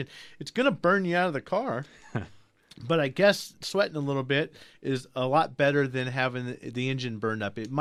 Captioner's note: laughs